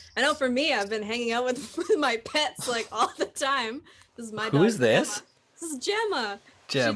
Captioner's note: laughs